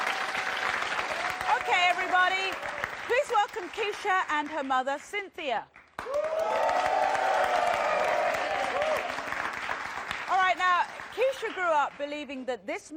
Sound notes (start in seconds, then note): 5.8 audience applauding